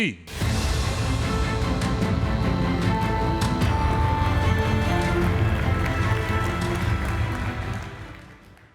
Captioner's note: applause